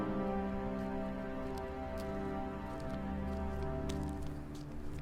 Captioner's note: footsteps plodding